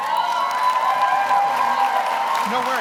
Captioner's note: audience applauds; audience cheers